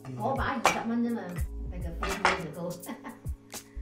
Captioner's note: laughs